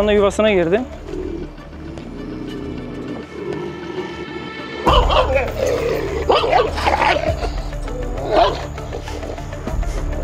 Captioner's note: growling, barking sounds and tense music